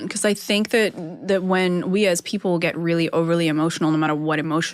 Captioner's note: none